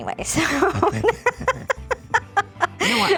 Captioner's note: laughs